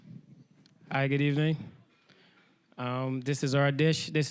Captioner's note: with Barbadian accent